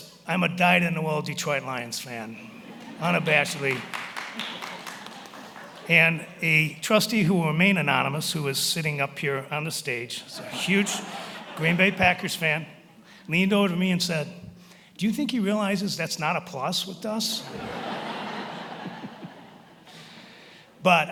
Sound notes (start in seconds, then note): 2.7 attendees applauding; 10.3 attendees laughing; 17.4 attendees laughing